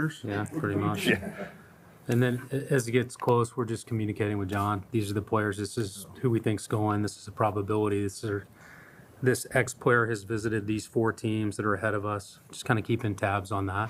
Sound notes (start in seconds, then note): 0.8 audience laughs